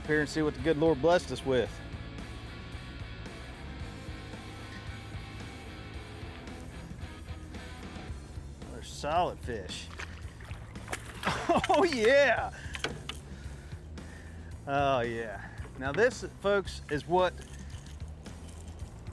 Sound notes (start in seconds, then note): 2.8 optimistic music; 9.6 water splashing; 12.7 metal clanging